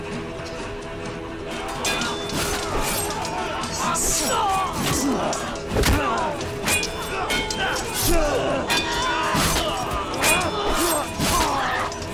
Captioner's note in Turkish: Çarpışma sesleri